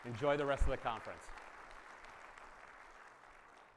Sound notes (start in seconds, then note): 0.0 attendees applauding continues